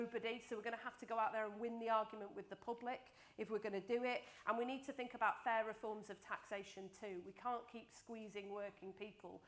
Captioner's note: none